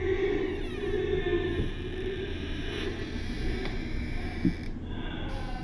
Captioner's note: door slowly opens